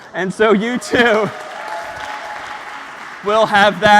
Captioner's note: applause